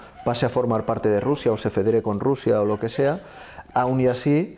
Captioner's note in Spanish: perros contentos ladrando